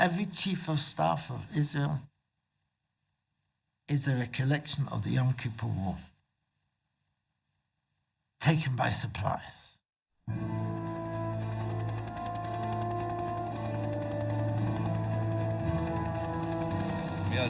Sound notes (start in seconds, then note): 10.4 dramatic music; 12.2 helicopter juddering